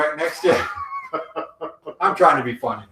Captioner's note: laughs